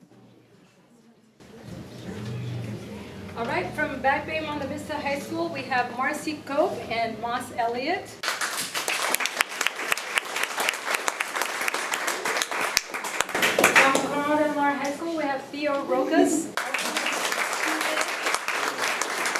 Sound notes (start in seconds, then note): 8.2 applause; 16.5 applause